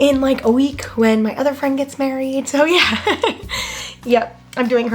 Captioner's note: laughs